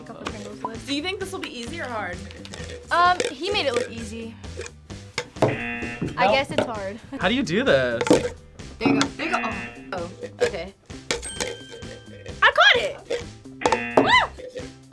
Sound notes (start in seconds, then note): 5.5 buzzer; 9.2 buzzer; 11.2 bell rings; 13.6 buzzer; 14.7 bell rings